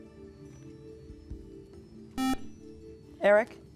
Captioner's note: beeping